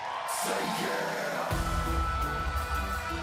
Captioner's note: crowd cheering